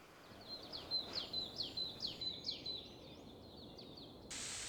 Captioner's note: birds chirping